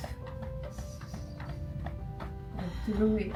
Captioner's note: gentle piano music; hands thudding